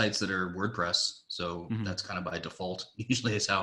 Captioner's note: laughs